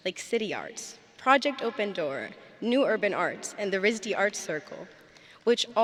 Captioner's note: none